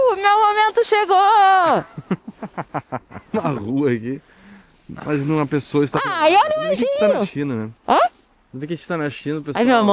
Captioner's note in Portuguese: risadas